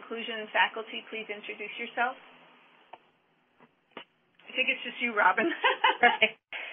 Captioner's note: laughter